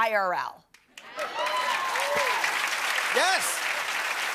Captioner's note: cheers and applause